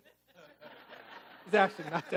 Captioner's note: audience laughing